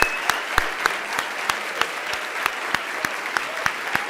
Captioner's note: applause